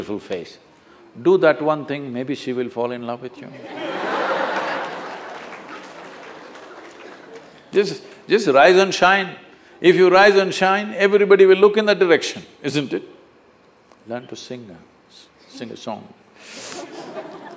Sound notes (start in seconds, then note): 6.5 laughter